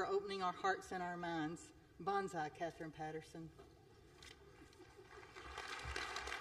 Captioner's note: applause